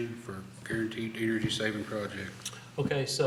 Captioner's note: none